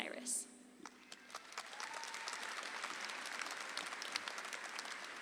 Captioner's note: audience applauds